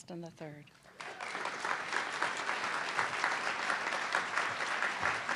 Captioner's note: audience clapping